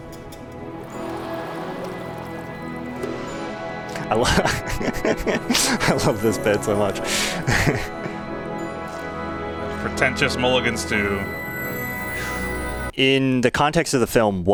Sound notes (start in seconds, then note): 0.2 ethereal music; 3.9 laughs